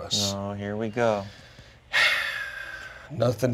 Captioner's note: sighs